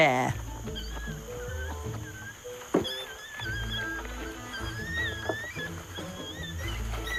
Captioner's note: orangutans squeaking; bright upbeat music